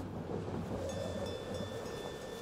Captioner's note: ship's bell rings